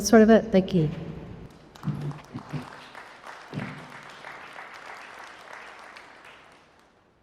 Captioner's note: applause